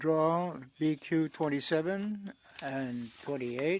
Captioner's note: speaking French